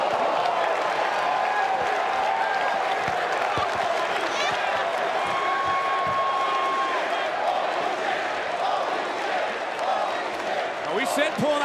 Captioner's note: crowd cheers